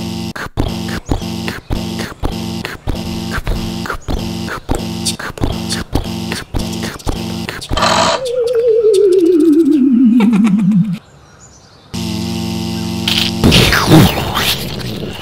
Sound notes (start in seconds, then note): 0.4 pounding footsteps; 7.6 click; 7.6 powering down; 11.9 buzz; 13.1 crunch; 13.4 explosion